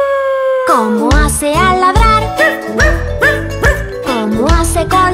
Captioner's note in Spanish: Aullido; Ladrido